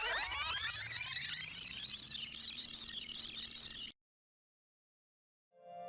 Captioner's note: record scratches, tape rewinds